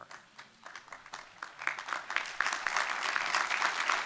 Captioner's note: applause